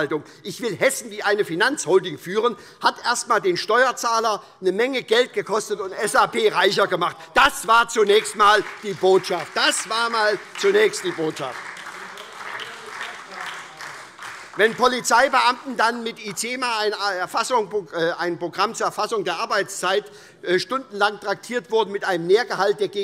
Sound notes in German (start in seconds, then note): 11.8 Beifall